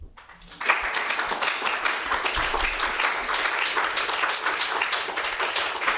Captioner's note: audience applauds